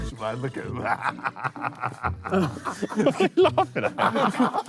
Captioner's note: JJ laughs